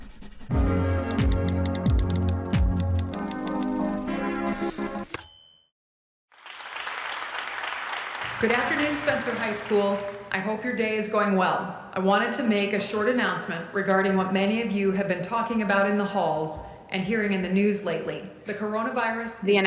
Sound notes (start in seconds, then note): 5.2 typewriter dings; 6.3 applause